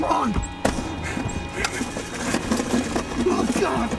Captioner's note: rummaging